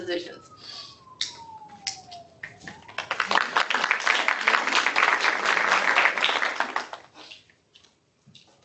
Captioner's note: applause